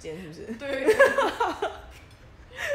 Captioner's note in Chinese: 大笑